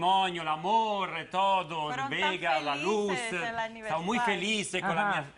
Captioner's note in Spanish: none